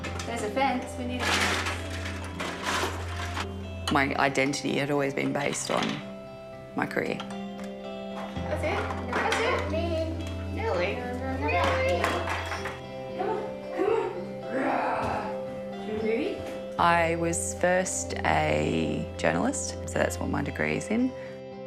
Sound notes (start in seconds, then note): 14.8 growls